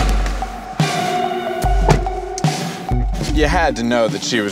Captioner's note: car door shuts